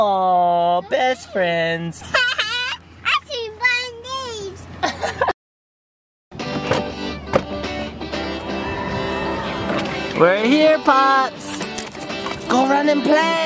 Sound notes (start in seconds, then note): 2.0 giggles; 6.3 happy music